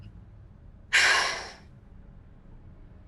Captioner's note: maybe exhales